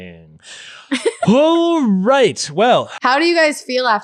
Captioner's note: laughing